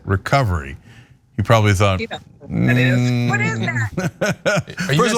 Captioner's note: laugh